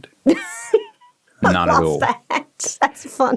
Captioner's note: laughing